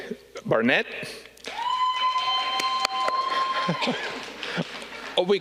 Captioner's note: audience cheering